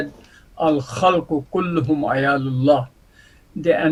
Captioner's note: Arabic